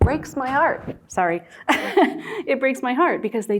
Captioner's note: laughing